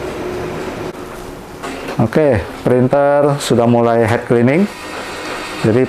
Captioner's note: printer machine sound